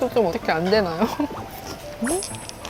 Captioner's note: nom nom